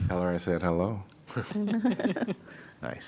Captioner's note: laughter